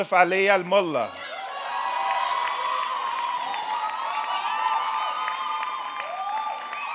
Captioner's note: audience cheering; audience clapping